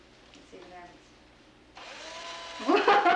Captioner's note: whirring; laughs